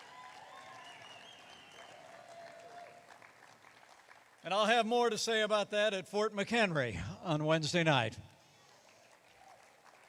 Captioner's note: applause